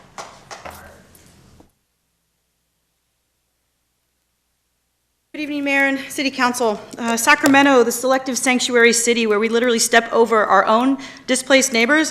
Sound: applause

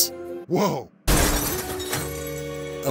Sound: crash

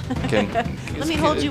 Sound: laughing

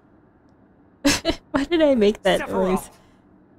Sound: laugh

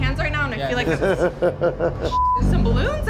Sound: guide laughs sinisterly

